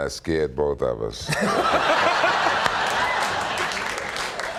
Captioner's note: laughs